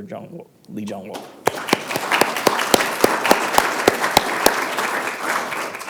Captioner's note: applause